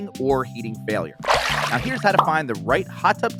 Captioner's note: water splashing